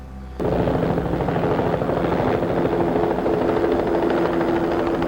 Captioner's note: helicopter whirring